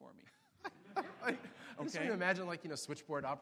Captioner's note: laughs